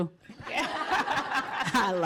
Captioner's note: laughter